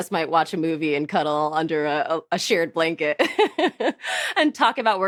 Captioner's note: laughs